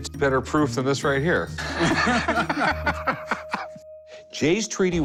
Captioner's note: laughter